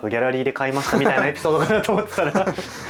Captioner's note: laughs